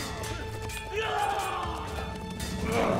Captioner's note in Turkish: Bağırma sesi